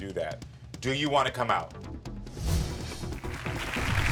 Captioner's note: air whooshes; audience applauds